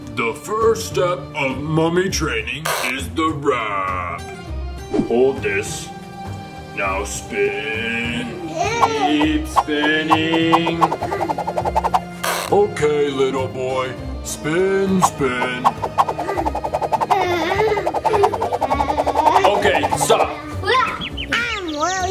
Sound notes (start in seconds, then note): 9.3 swooshing; 12.2 wrap scratching; 15.0 swooshing; 18.2 both swooshing; 20.8 birds chirping